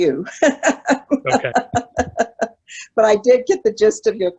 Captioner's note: laughing